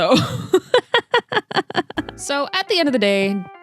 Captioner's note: laughs in 👹